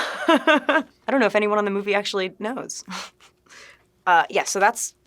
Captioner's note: laughing; scoffs